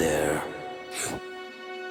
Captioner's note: gasping